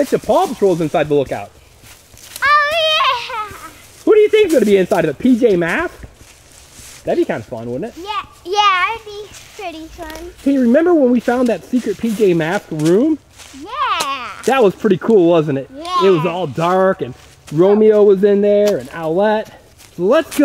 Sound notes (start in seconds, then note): 3.7 laughs